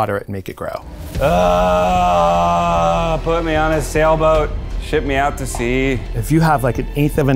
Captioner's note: groans